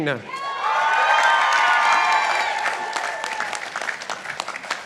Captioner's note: participants applauding